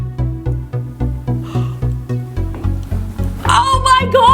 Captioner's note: gasps